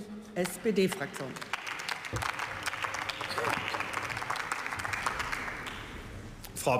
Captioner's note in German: Beifall